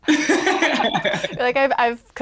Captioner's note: Kate laughs